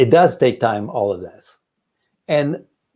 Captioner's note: none